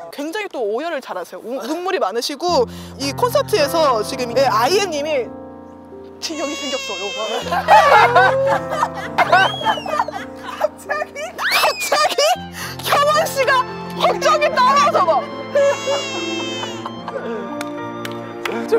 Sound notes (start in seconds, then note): 6.2 almost crying; 6.4 laughs